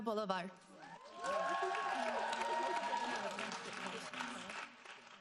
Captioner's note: audience applauding